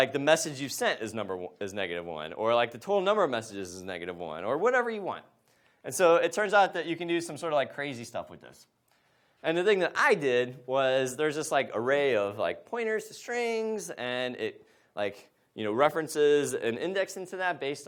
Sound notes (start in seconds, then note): none